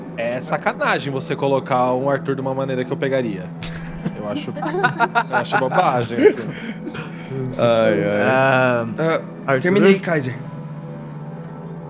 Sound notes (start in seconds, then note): 3.6 laughter